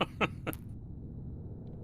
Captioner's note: laughs